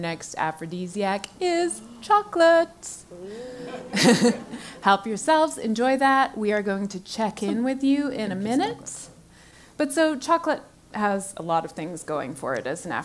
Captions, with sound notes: because our next aphrodisiac is chocolates. [LAUGH] Help yourselves, enjoy that. We are going to check in with you in a minute. But so chocolate has a lot of things going for it.